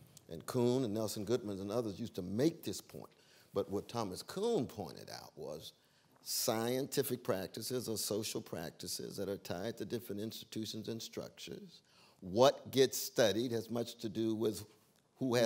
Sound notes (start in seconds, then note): none